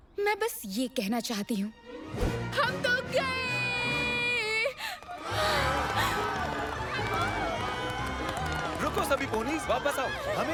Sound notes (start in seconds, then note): 5.1 townsponies screaming